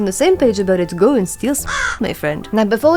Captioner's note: caw